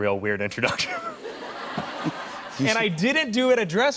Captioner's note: laughter